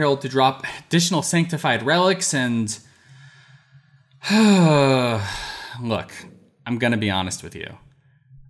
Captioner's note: sigh